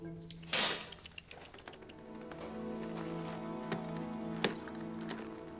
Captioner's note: wings fluttering